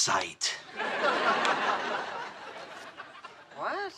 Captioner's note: audience laughing